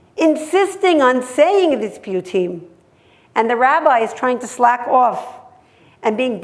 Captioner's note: hebrew